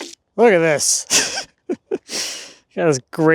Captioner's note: chuckling